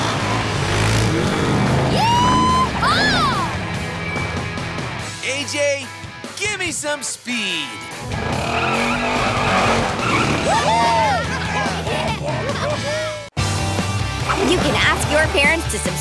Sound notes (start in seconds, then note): 10.1 cheering